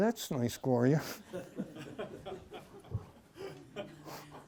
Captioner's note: laughter